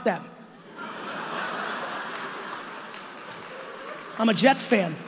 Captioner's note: audience laughing